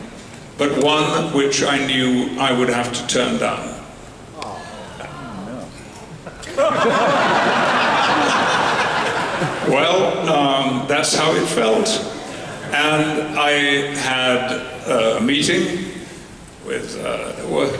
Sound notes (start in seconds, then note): 4.4 fans groan in disappointment; 6.3 audience laughter